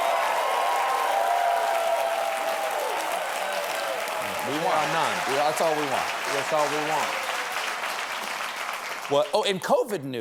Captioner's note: applause